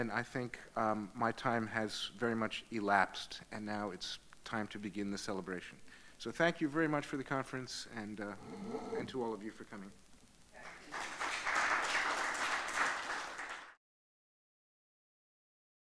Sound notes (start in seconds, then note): 10.6 audience clapping